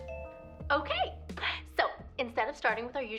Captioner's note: ringing